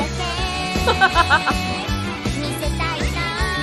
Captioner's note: chuckles